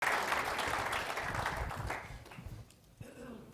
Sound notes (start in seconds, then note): 0.0 applause